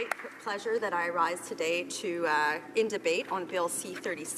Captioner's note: some Applause